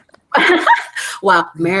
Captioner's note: ladies laughing